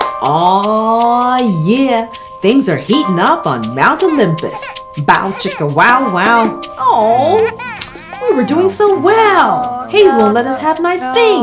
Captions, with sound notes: Oh, yeah! Things are heating up on Mount Olympus Bow chicka wow-wow (baby crying) Oh, we were doing so well. Hayes won't let us have nice things.